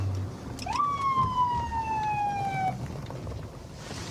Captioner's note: sirens blaring